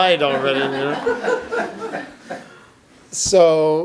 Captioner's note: audience laughs